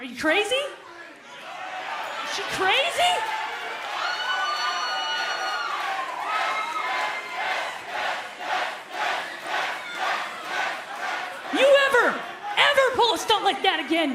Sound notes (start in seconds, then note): 3.8 crowd cheering